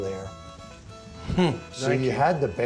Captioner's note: laughs